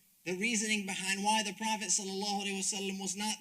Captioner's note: speaks Arabic